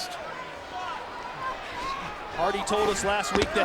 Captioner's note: audience chattering